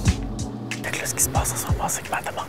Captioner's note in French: chuchotant